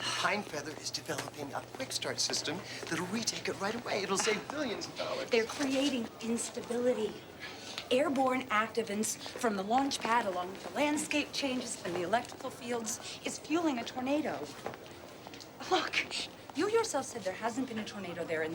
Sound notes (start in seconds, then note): none